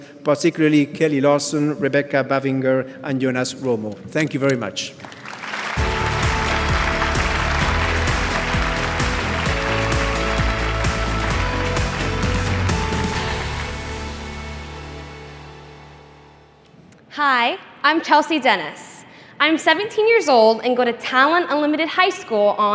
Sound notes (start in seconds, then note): 5.0 audience applauding; 5.7 upbeat music